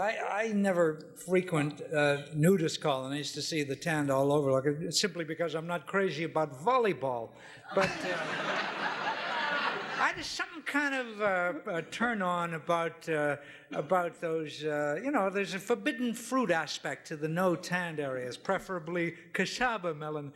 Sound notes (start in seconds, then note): 7.6 audience laughing